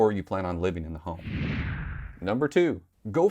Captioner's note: whooshing